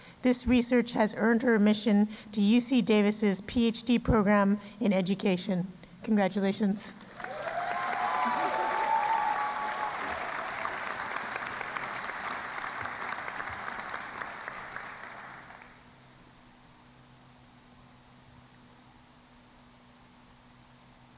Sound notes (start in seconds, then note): 7.0 cheering and Applause